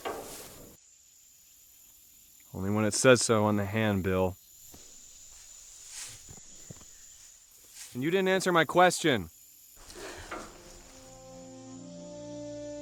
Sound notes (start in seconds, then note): 9.8 sighs; 10.2 melancholic music